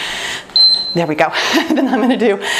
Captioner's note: timer beeps